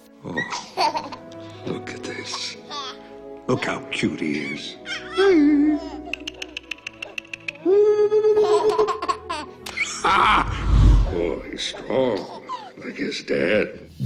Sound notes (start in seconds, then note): 0.3 Hercules giggling; 6.4 ticking; 9.8 Hercules laughing